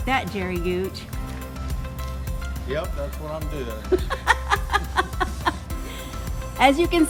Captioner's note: laughs